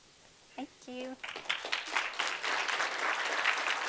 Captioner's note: audience applauding